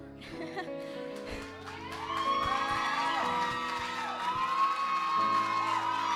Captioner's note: audience cheering and clapping